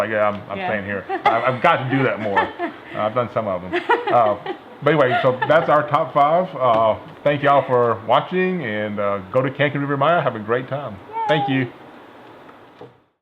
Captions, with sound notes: - I'm just like, I'm staying here. I've got to do that more! I've done some of them. (laughing) Anyway, that's our top five. Thank you all for watching, and go to Cancun, Riviera Maya, have a great time. Thank you!